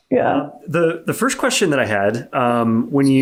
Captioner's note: laughs